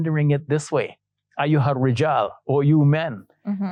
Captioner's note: speaking Arabic